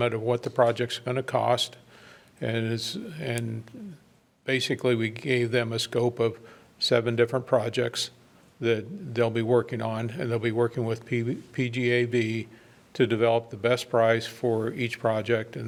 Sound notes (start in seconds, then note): none